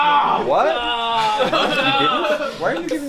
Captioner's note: groans, followed by everyone else